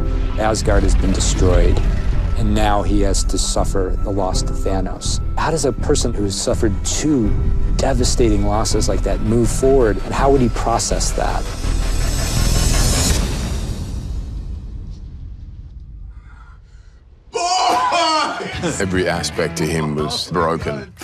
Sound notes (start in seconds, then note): 17.7 laughing